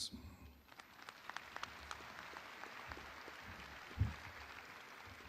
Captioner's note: audience applauding